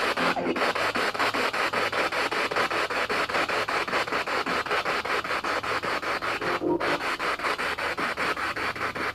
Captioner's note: radio noise from the spirit box